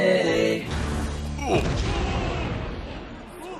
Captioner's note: minecraft death noises - oof